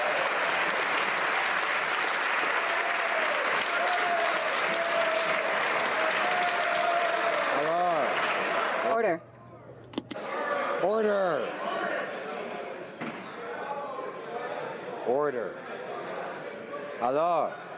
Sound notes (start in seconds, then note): 2.8 some Applause